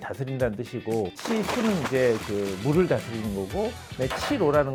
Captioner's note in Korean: 물 흐르는 소리